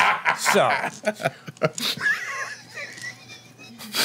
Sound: laughing

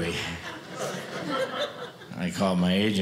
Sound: audience laughing

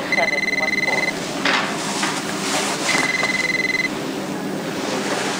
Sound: cell phone rings

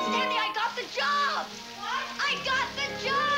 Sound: shower running

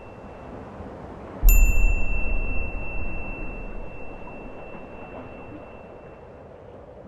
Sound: beep; wind blowing; wind blowing; beep

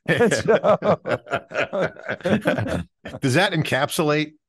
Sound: laughing

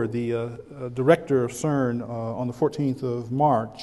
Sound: none

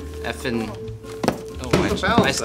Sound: thud

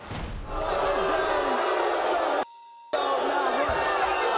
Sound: audience booing

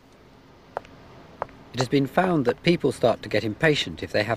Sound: footsteps

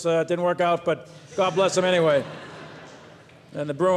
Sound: audience laughs

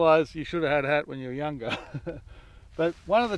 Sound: chuckles

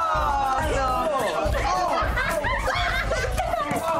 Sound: group laughs

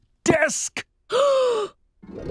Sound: gasping

